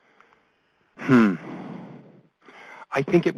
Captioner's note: voiceover